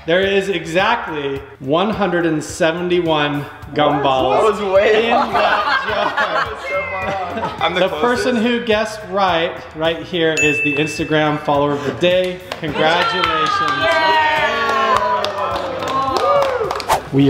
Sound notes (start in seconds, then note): 4.0 group laughs; 10.3 dinging; 14.5 applauding; 14.5 cheering